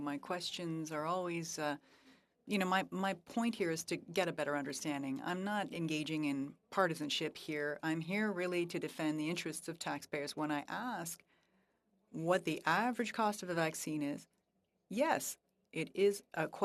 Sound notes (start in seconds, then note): 6.3 speaking French